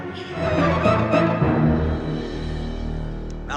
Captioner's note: laughing maniacally